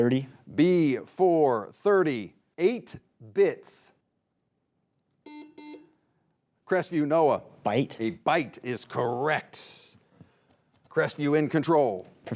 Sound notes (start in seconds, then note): 5.2 buzzer buzzing